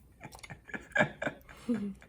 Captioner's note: laugh